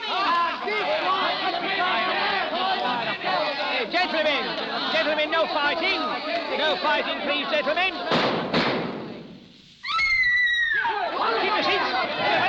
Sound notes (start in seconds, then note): 9.8 scream; 10.8 chatter